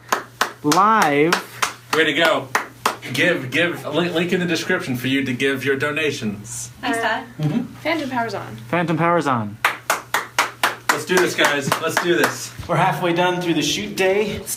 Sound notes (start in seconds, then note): 0.0 clapping; 9.6 clapping